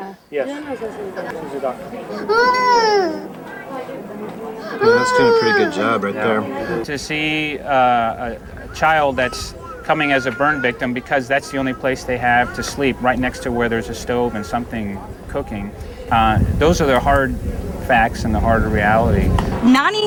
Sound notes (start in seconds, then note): 0.2 people speaking foreign language; 2.4 baby cries